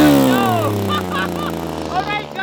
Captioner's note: laughing